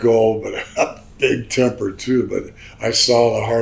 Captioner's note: laughs